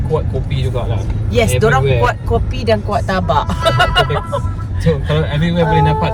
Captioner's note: laugh